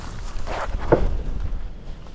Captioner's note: pop